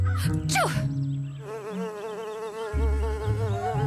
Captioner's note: sneezes; buzzing